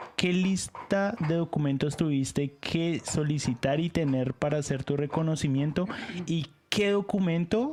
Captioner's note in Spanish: resoplido